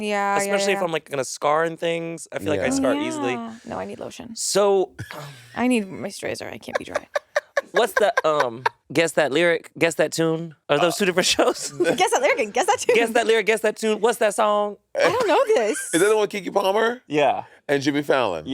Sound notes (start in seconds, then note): 6.6 Monét laughing